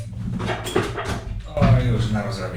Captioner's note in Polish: butelka spada